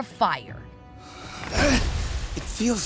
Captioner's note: grunting